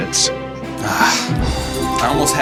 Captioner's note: sigh